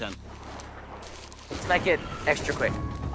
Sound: thunder rumbles

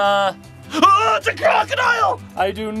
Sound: yells

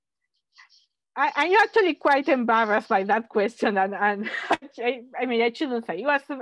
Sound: laughs

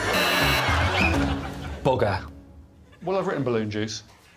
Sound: blows whistle

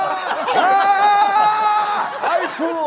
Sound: screaming

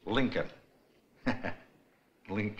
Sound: laughs

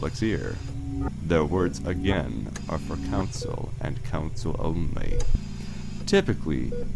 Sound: mechanical ambiance

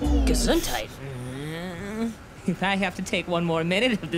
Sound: Gabe snarling

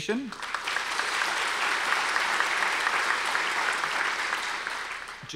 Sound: audience applause

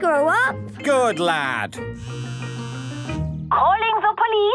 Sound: phone ringing

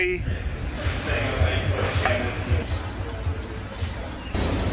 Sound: coffee shop sound

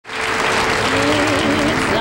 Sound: audience applauding

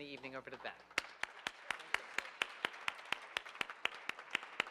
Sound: audience applauding

